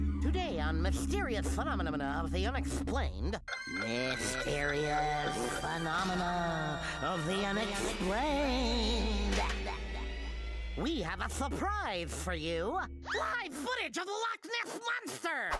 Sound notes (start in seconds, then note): none